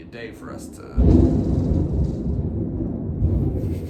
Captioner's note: more loud thunder